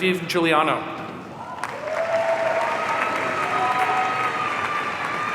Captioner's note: audience cheering